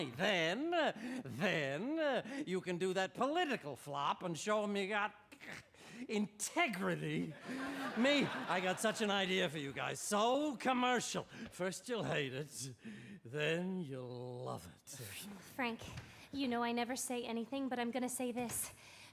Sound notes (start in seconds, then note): 5.7 scoffs